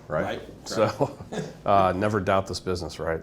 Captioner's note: laughter